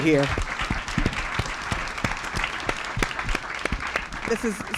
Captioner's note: applause